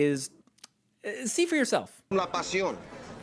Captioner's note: hesitant